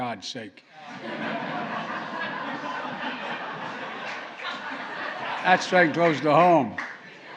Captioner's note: laughter